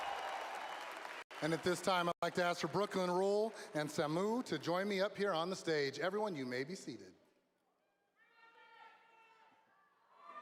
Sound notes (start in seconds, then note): 5.0 applause